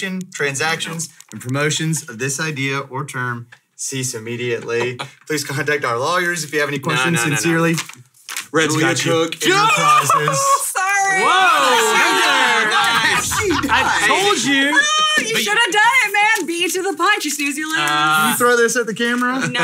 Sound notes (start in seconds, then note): 11.2 all cheering